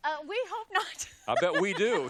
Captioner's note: laughs; laughter